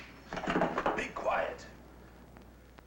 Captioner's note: items rattling